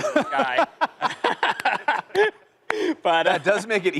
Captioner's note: laughter